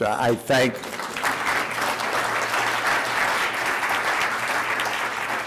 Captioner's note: audience applauds